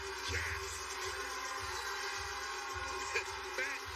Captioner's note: cheers and applausese; chuckles